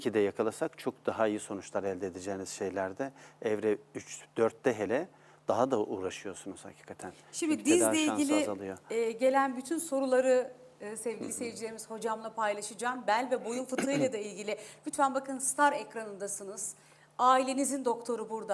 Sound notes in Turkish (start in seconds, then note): 13.8 boğazını temizler